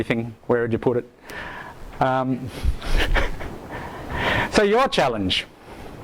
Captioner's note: laughs